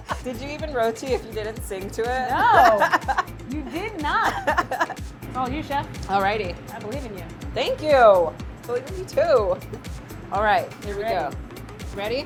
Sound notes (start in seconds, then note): 0.0 both laughing; 4.2 laughs